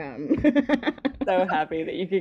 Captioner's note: laughing